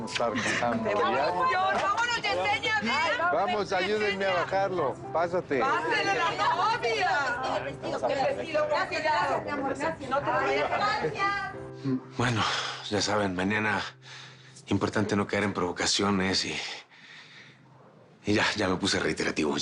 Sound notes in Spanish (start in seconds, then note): 9.9 Hablan al unísono